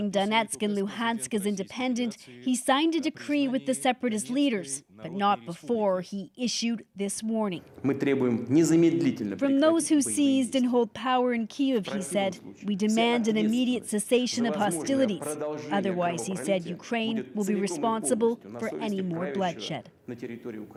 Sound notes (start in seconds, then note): 11.7 speaking Foreign Language